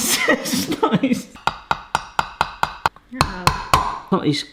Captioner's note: tapping